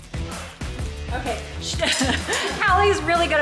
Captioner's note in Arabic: أمي تضحك